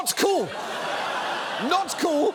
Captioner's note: audience laughs